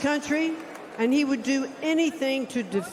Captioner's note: applause